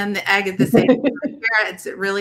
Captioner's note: laughs